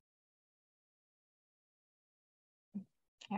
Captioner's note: silence